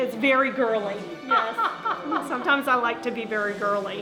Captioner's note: laughing